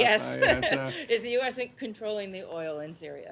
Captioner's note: laughter